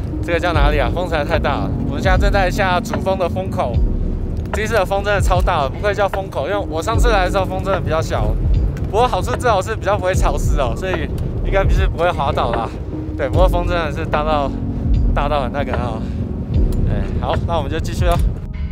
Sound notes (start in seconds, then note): 9.3 the wind is strong